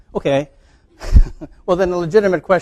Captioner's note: chuckles